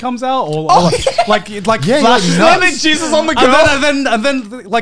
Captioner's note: murmurs